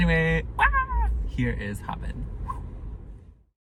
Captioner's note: woosh sound